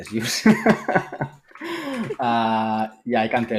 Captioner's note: laughs